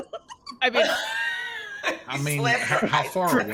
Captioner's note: laughs